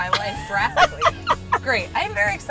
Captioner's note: laughs